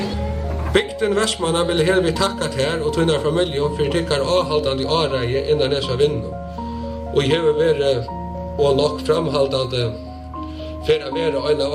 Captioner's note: speaking in Faroese